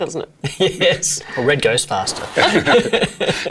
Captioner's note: laughing; Noel and Celia laughing